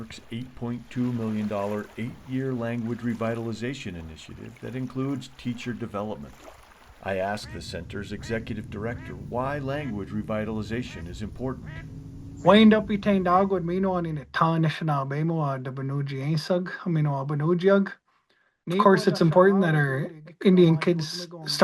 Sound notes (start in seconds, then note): 12.5 speaks in indigenous language